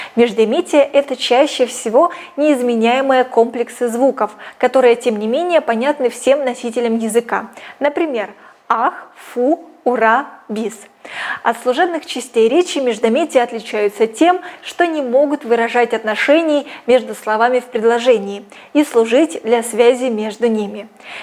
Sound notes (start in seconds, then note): 11.0 phew!